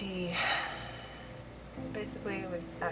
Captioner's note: deep sigh